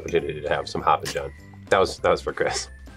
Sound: laughs

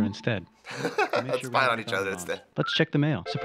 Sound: chuckling

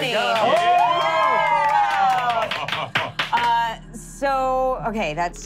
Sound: cheering

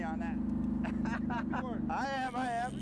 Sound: laughter

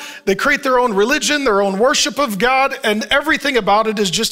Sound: none

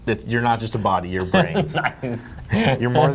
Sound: laughs

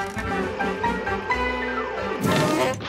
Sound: horn honking

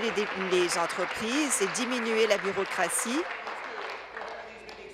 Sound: applause

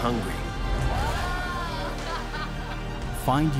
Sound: laughing

